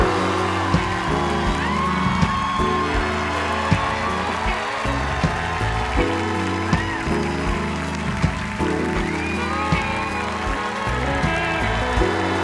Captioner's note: cheers and applause